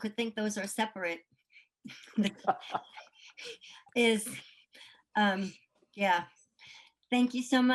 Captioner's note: laughter